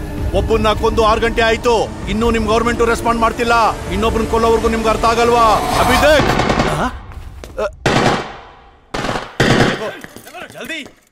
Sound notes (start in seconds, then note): 7.8 gun shots